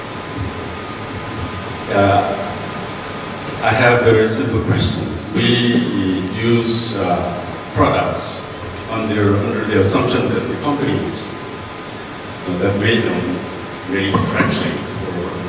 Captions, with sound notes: - [Voiceover] I have a question. We use products under the assumption that the companies that made them, made them work safely.